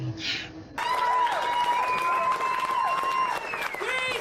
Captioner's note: cheering